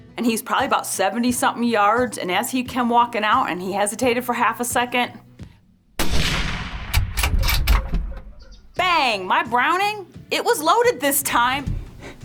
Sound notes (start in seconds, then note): 5.9 gun fires